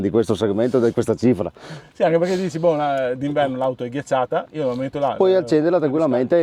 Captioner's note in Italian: sbuffare